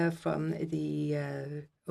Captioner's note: speaking French